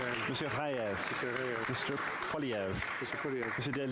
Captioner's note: speaking French